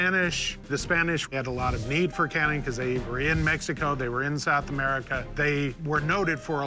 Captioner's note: none